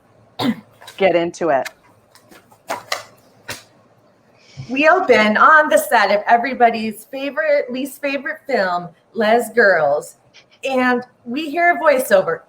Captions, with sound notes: - Let's get into it. (papers tapping) - We open on the set of everybody's favorite, least favorite film, "Lez Girls," and we hear a voiceover.